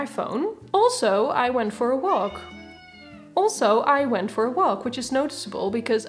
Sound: interrupted by cat screaming

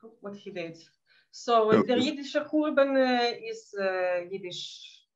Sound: speaking in Yiddish

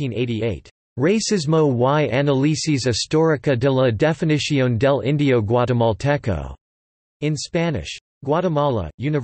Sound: in Spanish

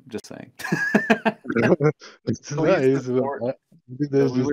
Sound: laughing

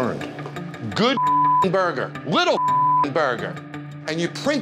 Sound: beep

